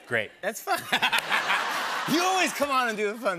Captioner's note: laughter